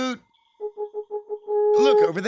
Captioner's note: hooting